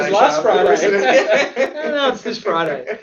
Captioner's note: amused laughing